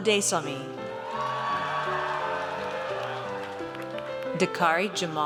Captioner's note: audience cheers